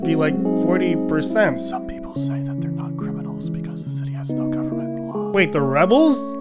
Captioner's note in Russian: шёпотом